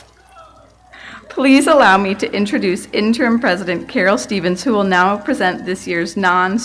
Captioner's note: laughter